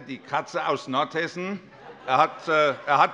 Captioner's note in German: Allgemeine Heiterkeit